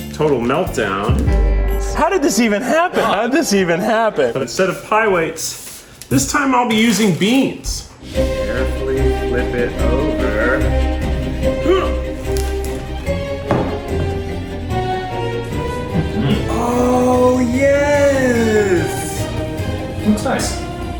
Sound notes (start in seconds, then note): 0.7 dramatic music; 7.9 dramatic music; 11.6 grunt; 12.2 dramatic music; 19.2 dramatic music